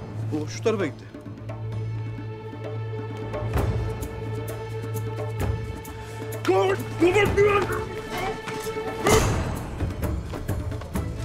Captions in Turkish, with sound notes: O, şu tarafa gitti. (Boğuşma sesleri)